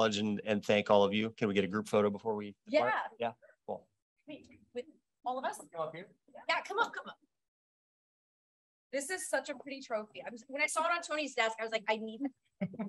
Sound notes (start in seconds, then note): 4.0 silence; 7.4 silence; 12.6 laughter